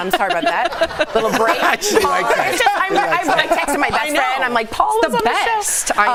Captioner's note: laughter